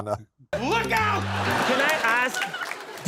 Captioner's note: laughter